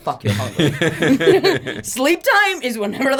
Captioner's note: both laugh